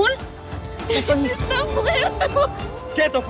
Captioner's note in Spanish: Sollozos